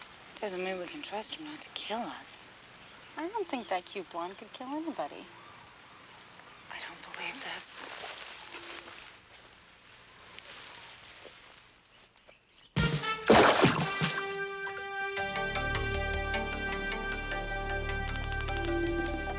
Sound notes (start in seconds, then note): 12.8 upbeat music; 12.8 water splashing